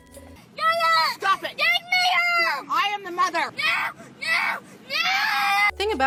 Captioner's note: kid throws a temper-tantrum